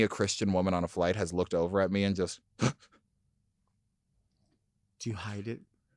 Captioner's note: scoffs